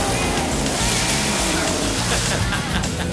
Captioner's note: car engines revving; water splashing; Roach groans; John laughs